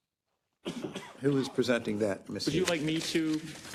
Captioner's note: cough